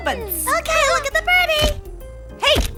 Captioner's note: camera flash clicking